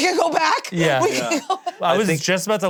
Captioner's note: laughs